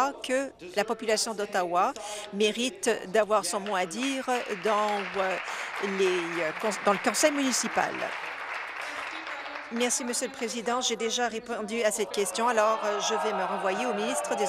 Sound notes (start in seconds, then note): 8.9 applause